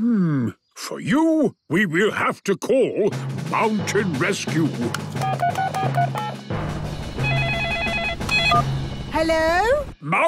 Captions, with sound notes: - Hmm.... For you, we will have to call Mountain Rescue! (phone beeping) (phone ringing)